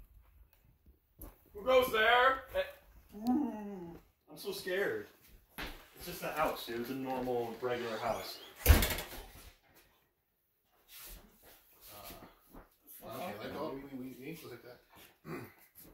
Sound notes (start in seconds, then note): 8.6 the door slams shut